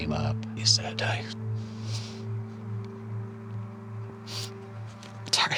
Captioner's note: sniffling; voice quavering